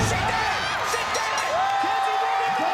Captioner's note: bell dinging; crowd cheering